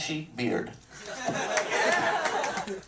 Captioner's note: laughter